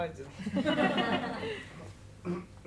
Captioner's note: laughter